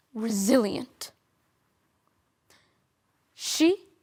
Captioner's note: soft sharp breaths